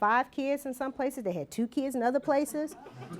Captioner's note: laughter